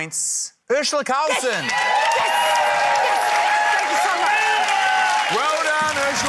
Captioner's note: cheering, applause